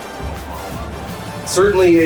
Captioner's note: crowd Noises